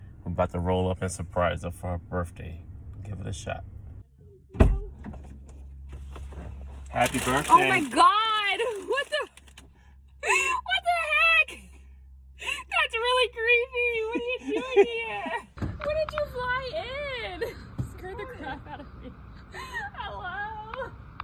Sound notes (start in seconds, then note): 4.7 door clicks; 10.2 laughing